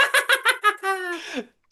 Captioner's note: laughing